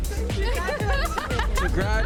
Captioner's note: all laughing